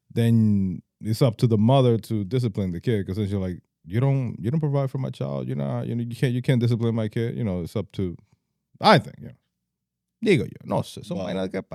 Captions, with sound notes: Then it's up to the mother to discipline the kid because you're like, you don't provide for my child, you can't discipline my kid, you know, it's up to, I think, you know. (Speaking In Foreign Language)